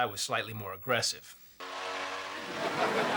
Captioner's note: motorcycles on TV revving